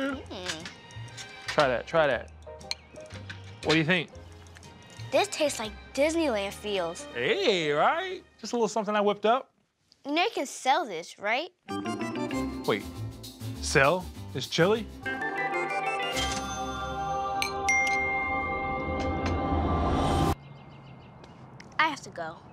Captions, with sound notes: Try that, try that, what do you think? - This tastes like Disneyland feels. - Hey, right? Just a little something I whipped up. - You know you could sell this right? (upbeat music) - Wait, sell this chili? (cha-chings) (angelic music) - I have to go.